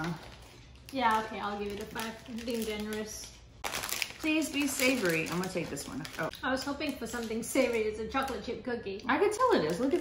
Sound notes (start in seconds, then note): none